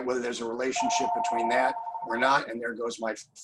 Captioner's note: telephone rings